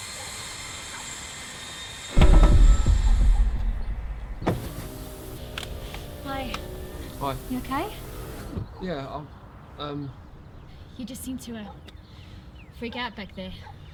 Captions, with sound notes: (knocking) - Hi. - Hi. - You okay? - Yeah, I'm, um... - You just seemed to, uh, freak out back there.